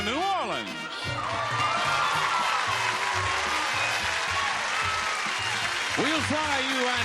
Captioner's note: lively music; audience applauding